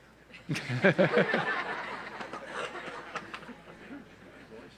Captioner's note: audience laughs